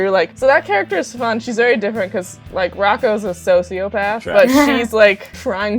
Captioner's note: laughter